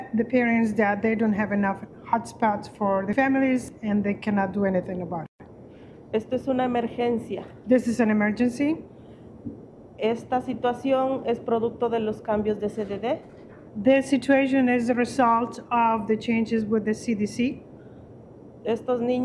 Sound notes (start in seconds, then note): 3.7 speaking Spanish